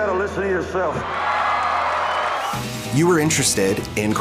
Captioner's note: cheering